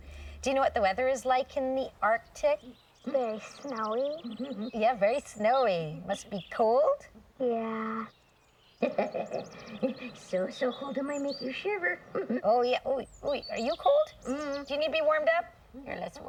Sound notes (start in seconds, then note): 8.8 chuckling